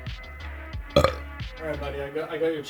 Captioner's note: burps